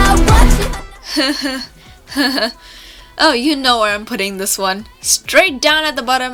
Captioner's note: slow, awkward laughs